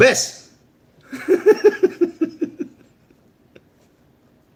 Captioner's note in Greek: γέλια